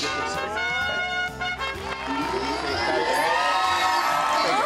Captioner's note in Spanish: Aplausos